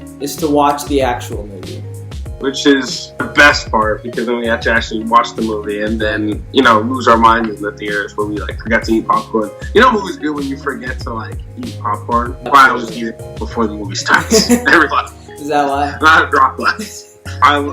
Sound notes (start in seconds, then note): 14.2 laughter